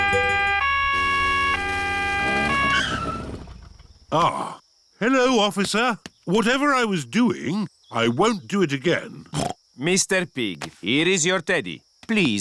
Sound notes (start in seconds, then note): 0.0 police siren; 9.1 snorts